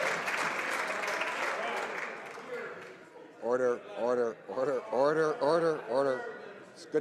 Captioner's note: some Applause